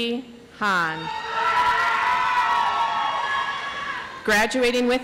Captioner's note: audience applauds